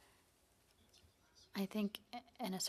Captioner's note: speaking in French